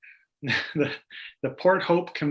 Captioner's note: chuckles